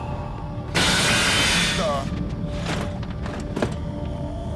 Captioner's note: loud crashing